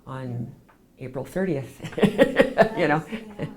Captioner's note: laughs